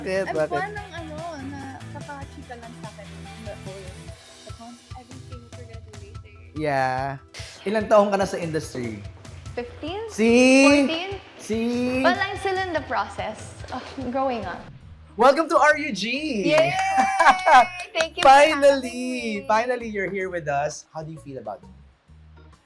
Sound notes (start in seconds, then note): 16.4 claps; 16.5 chuckles